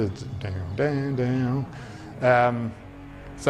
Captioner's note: hums